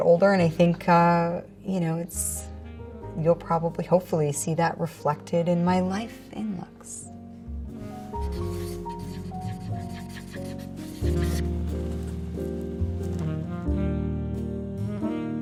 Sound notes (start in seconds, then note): 8.1 marker writing on paper; 8.3 soft jazzy music